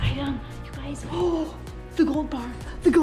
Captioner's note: gasps